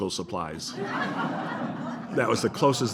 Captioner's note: laughter